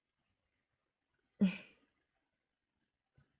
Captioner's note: chuckles